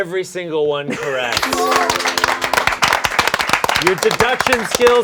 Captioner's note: applause